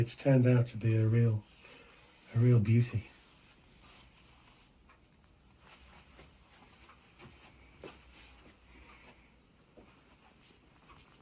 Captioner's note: audio cuts out